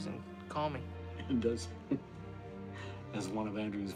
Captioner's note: laughs